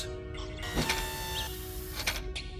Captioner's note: mechanical noise